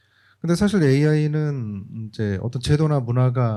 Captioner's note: speaking korean